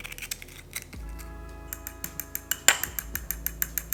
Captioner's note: sound of fork hitting the small bowl